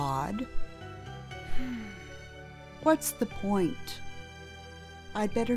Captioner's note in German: Seufz